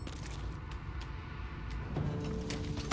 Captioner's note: none